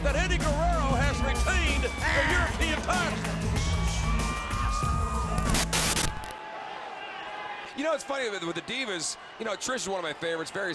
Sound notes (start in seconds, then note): 5.3 TV static